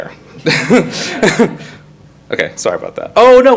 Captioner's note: all laugh